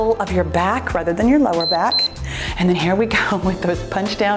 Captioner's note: timer beeps